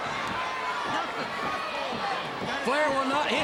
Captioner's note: crowd cheering